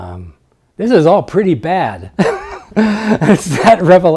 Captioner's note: laughs